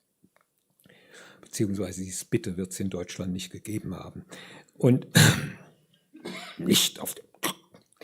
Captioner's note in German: gelächter